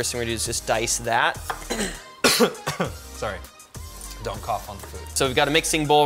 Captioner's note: coughs